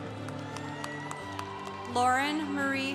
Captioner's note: congregation cheering